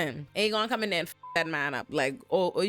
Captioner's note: beep